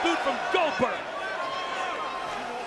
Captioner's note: applause